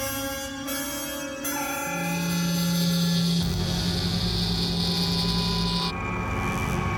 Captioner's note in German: Transportersummen